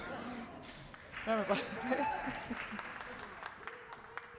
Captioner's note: applause